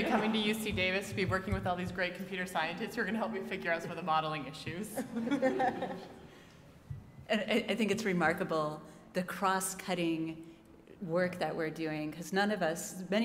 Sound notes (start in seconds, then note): 5.0 laugh